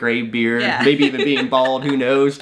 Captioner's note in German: lacht